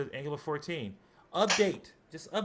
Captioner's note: whomp